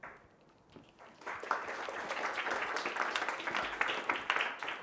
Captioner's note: audience applauds